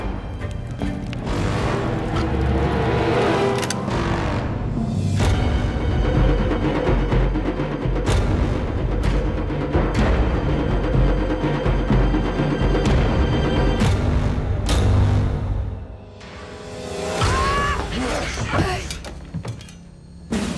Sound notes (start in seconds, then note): 17.2 screams